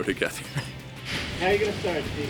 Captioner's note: laughs